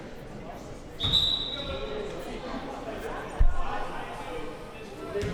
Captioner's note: whistle blowing